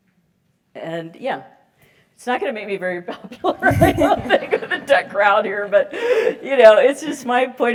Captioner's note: laugh